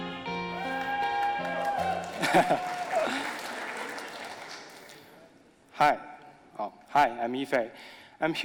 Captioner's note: audience applauding